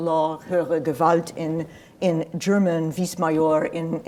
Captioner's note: speaks in foreign language